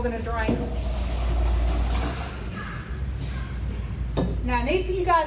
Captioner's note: water splattering